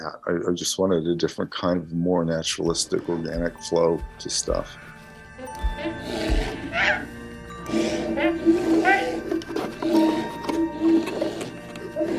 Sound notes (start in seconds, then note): 6.2 beast roaring; 6.2 being chittering